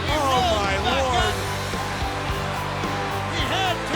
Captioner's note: crowd cheering